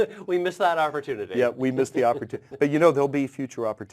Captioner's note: laugh